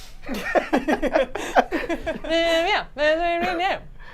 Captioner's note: laugh